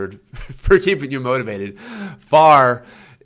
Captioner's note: laughs